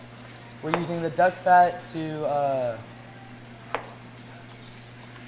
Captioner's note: pan sizzling; knife chops